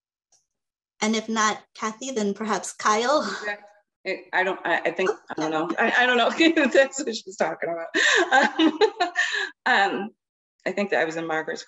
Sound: laughs

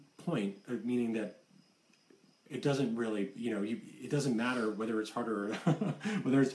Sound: laughs

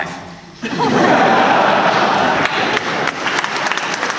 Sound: laughter; applause

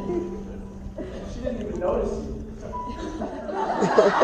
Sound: chuckles

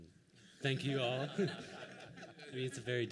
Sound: laughter

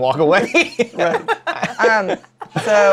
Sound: laughter

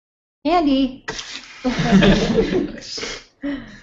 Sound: laughter

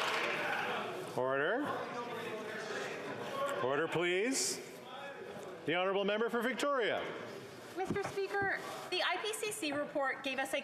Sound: some Applause

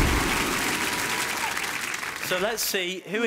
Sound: whooshing; applauding

